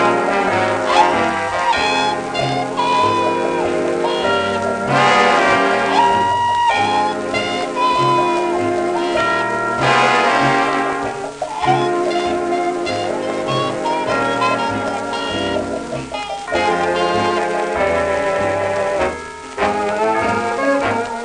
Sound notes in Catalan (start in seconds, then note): 7.2 imitant el so del passos del cavall